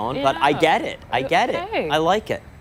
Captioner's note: laughter